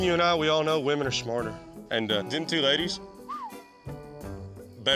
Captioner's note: whistles